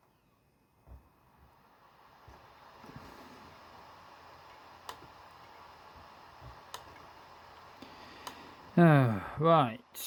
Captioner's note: laptop dvd drive spinning